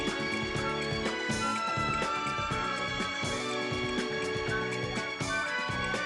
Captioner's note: phone ringing